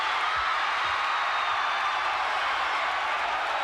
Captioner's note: crowd cheering